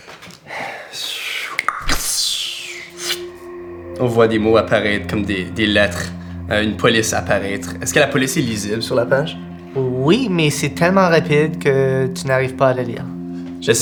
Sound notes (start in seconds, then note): 0.8 vocalizes a spell; 2.7 mysterious music